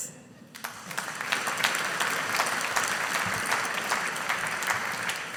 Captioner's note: audience applauding